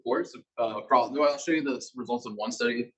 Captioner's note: male Voice